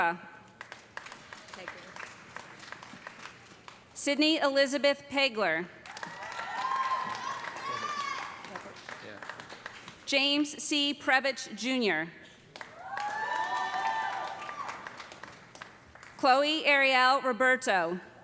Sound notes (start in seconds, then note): 0.5 applause; 5.8 cheers and applause; 12.6 cheers and applause